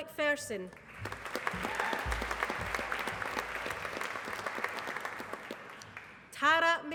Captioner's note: applause